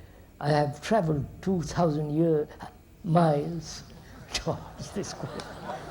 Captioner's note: laughter